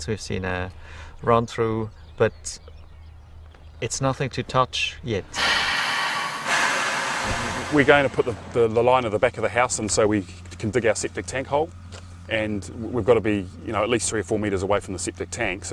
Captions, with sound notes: we've seen a run through, but it's nothing to touch yet. (metal clanking) - We're going to put the line on the back of the house, and so we can dig our septic tank hole, and we've gotta be you know, at least three or four meters away from the septic tank